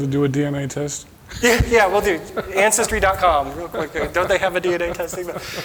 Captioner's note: chuckling